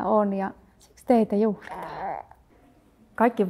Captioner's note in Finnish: vauvan äännähdys